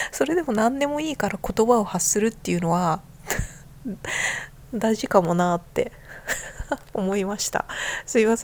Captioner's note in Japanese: 息をのむ音